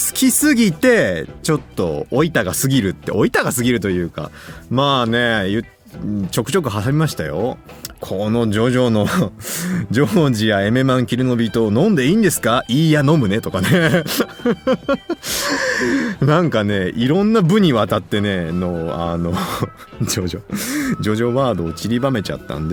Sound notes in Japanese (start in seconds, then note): 12.2 息をのむ音; 13.6 笑い